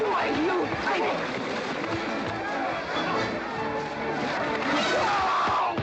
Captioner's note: western fight music; sounds of scuffling & fighting